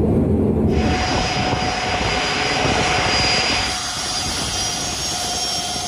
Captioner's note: aeroplane engine whirring